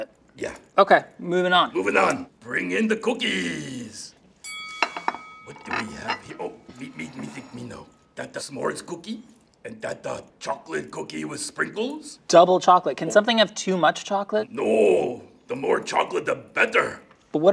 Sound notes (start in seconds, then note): 4.4 bell pings